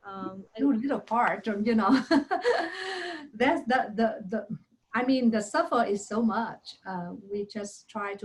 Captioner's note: chuckles